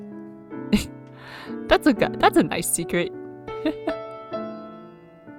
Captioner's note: laughs